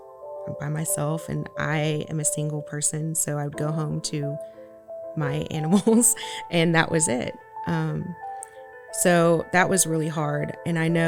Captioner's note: laughs